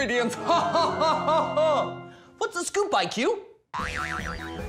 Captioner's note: maniacal laughter